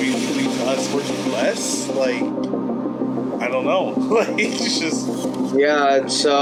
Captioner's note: laughs